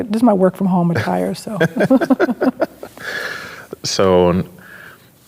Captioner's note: both laughing